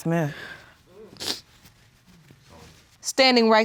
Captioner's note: sniffles